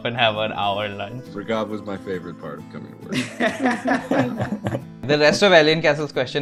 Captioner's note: laughter